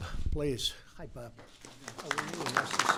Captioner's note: applause